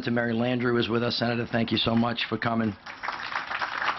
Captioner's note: applause